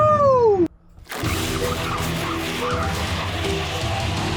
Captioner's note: car screeching